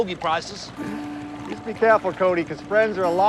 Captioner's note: chuckling